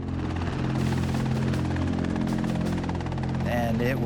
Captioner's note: helicopter blades whirring